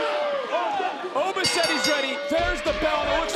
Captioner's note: bell rings